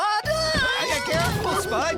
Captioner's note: thud!